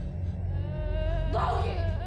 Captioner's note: moaning